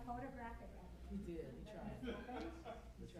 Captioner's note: background chatter